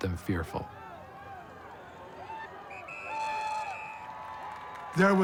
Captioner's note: cheering, whistle blowing